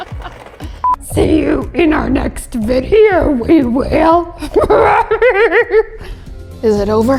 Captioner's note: laughing